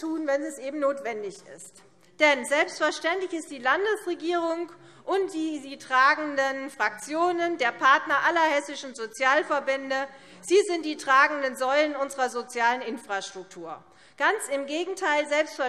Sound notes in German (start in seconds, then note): none